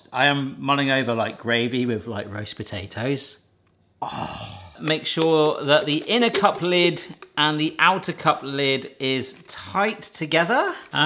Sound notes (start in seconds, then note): 4.1 scoffs